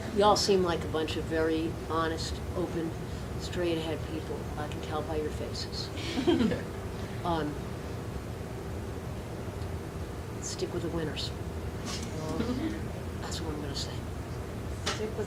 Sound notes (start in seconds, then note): 6.0 audience laughing